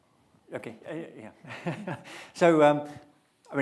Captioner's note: chuckling